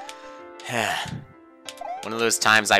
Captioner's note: sigh